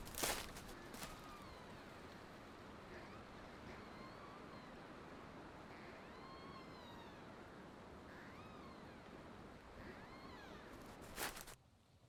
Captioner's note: overlapping tree creaking and wind blowing